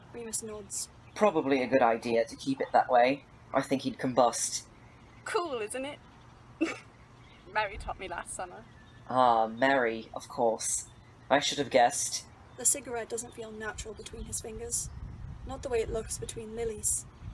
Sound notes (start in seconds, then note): 6.4 snorts